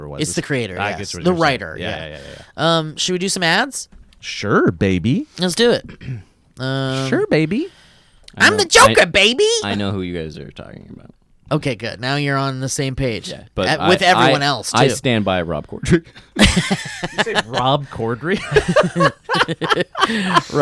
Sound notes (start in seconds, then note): 16.4 laughs